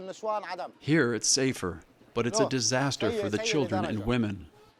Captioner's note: through translator